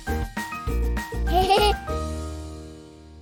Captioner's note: laughter